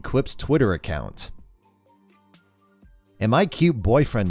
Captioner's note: pause